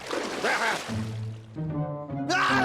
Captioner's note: groans; screaming